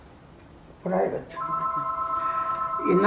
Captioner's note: phone ring